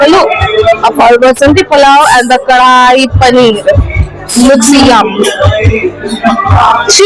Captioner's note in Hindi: हंसी